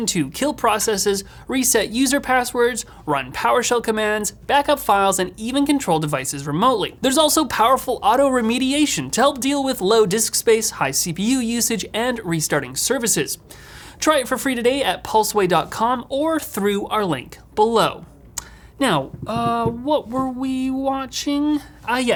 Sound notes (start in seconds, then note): none